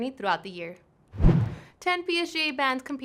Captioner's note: whoosh